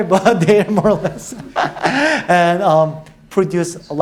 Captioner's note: laughing